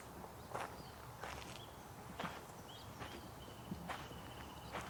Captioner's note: birds chirping